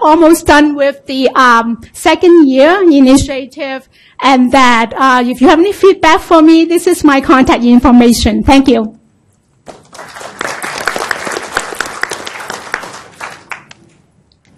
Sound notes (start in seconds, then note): 9.6 applause